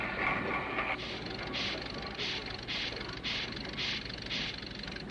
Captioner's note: machine clicking softly